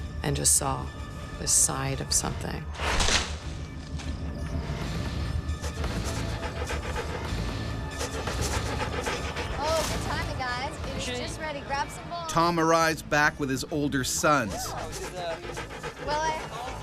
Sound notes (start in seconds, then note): 4.1 suspenseful music; 5.1 wolf panting; 12.6 voiceover